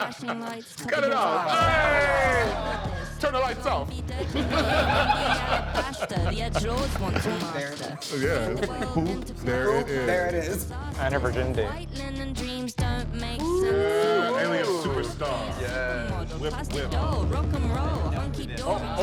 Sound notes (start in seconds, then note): 0.0 group cheering and laughing; 0.8 group cheering; 3.9 group laughing; 13.4 group cheering